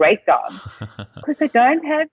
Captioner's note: laughing